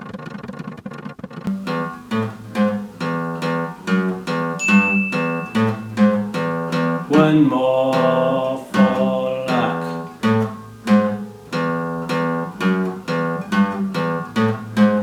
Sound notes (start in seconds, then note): 4.5 alarm Sounds; 5.7 plucking Guitar Strings; 11.0 plucking Guitar Strings